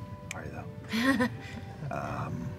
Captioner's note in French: rire